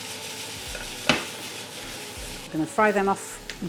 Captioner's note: sizzle